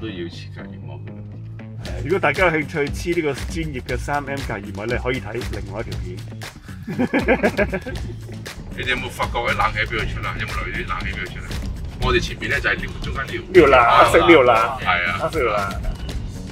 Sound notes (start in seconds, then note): 6.8 laughter